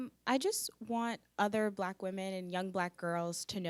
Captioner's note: none